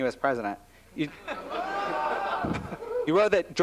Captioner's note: audience exclaims